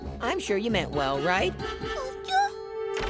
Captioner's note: squeaking